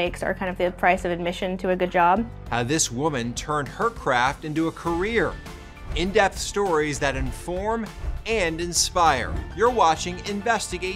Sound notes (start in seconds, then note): 5.2 graphics whooshing